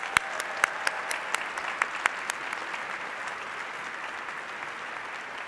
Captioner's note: applause